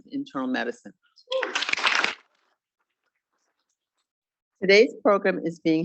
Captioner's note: students clapping